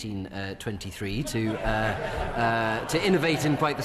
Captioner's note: members laugh